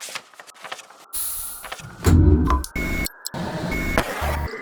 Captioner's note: machine noises